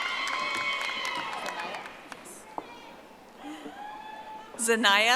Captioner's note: audience applauding